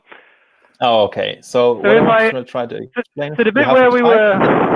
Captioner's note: participants chattering